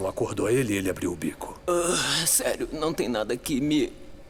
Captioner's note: whimpering